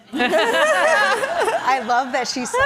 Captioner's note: audience laughs